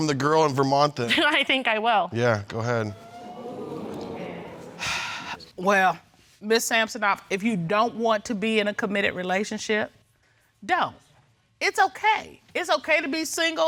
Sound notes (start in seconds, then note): 2.8 audience exclaiming; 4.4 exhales